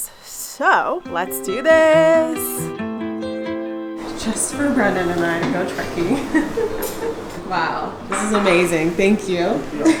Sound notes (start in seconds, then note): 6.2 giggles